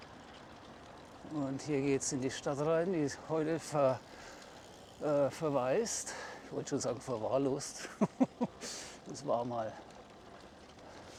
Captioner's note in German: gelächter